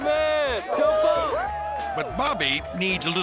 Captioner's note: skaters cheering